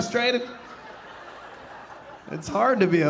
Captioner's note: audience laughing